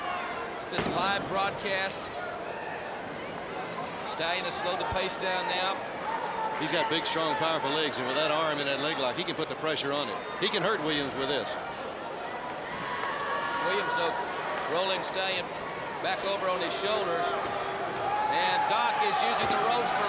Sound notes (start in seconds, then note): 2.8 crowd chatter; 12.4 crowd chatter